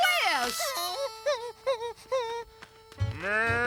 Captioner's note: whimpering